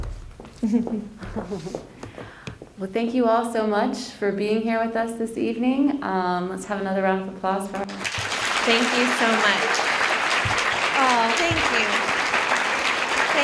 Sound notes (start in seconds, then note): 7.8 applause; 11.9 applause continues